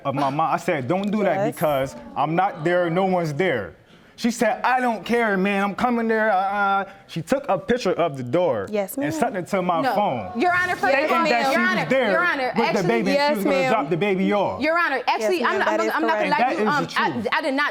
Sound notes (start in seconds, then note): 6.2 stutters